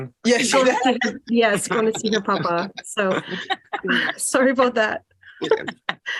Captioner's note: laughter; laughter